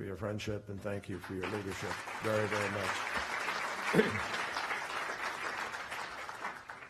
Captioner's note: applause